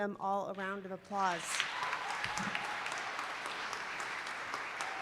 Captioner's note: applause